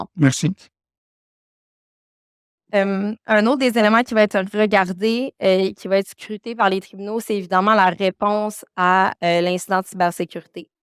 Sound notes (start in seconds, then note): 3.0 speaking French